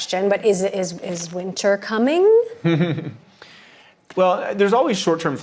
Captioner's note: laughter